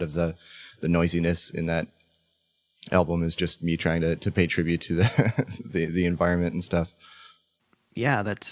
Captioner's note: laughs